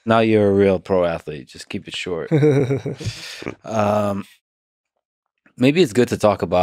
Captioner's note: laughing